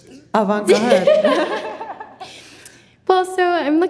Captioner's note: laughing